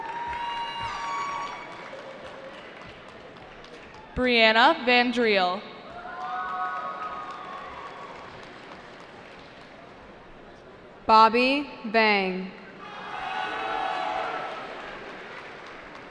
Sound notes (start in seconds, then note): 0.0 cheering; 5.8 cheering; 12.8 cheering